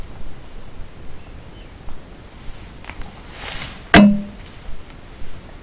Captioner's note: LOUD hit on my car, audio recorder on it